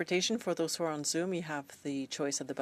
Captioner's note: speaking in French